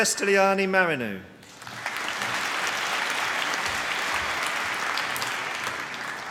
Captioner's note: applause